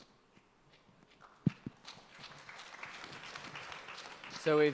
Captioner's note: audience applause